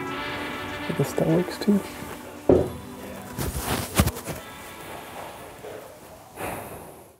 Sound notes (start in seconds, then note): 2.5 thunk